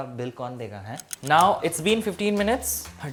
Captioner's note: ticking sound